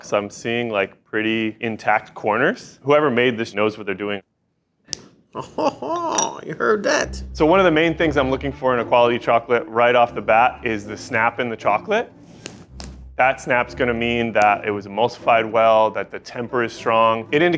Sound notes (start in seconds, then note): 4.9 chocolate snaps; 5.3 chuckles